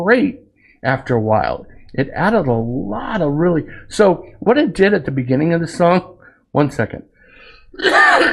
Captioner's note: cough